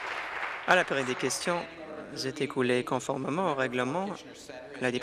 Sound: applause

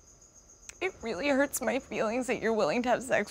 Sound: voice wavering

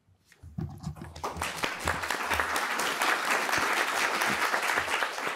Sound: audience applauding

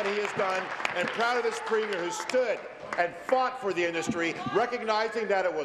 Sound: applause

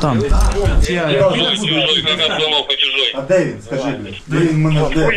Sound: captured Russian radio; radio in, " "

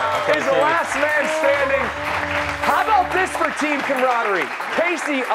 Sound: cheers and applause

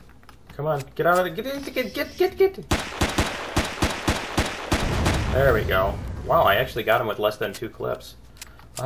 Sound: gunfire; explosion

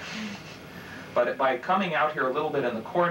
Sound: chuckling

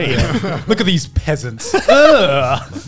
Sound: laughs

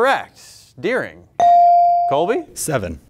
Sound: buzzer pings

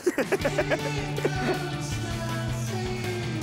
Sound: laughs

